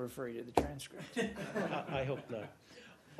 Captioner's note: laughter